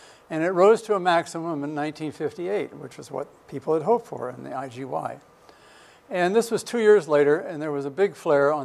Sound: none

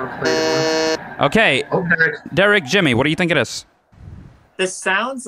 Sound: buzzes

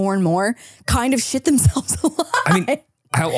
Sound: laughing

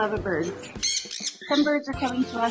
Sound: birds chirping

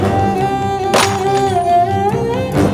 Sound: item breaks

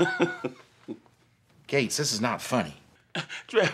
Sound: laughter

